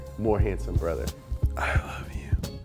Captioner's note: whispers